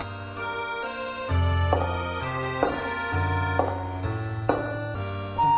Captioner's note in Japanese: 足音：コツコツコツ･･･